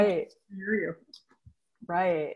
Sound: audio warps

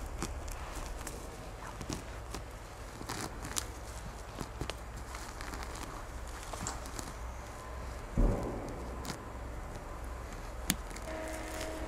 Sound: ripping sounds

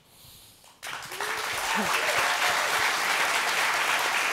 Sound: applause

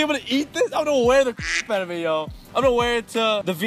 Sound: quack

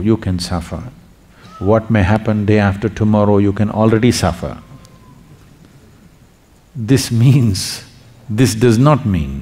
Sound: laughs

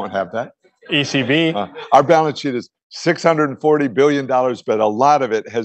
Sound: laughter

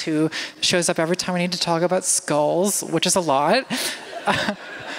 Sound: laughter

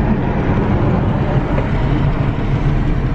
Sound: chey slam on brakes

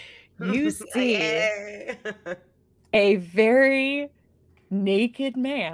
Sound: laughing

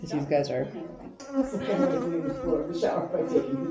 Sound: buzzing

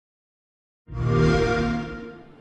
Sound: xbox sound

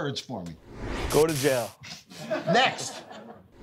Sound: audience laughing

